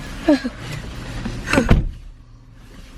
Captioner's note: sighs